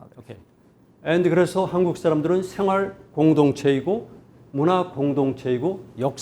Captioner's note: speaking in Korean